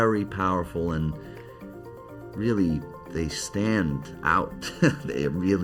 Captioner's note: chuckles